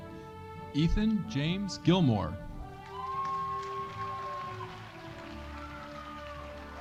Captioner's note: audience cheering